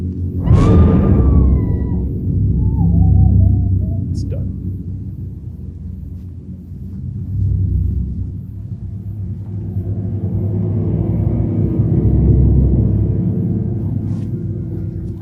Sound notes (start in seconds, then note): 0.4 Linda screams